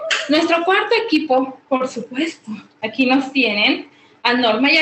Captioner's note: woman speaking Spanish